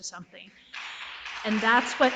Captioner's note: audience applauds